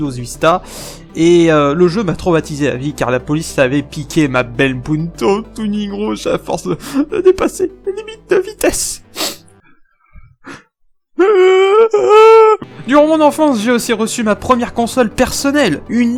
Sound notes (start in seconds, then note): 7.8 sobs; 11.2 cries